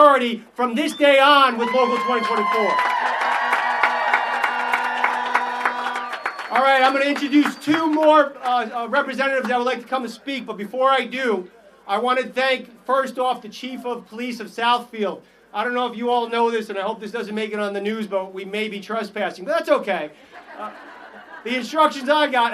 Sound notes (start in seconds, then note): 5.9 applause